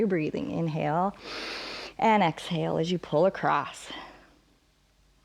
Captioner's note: inhales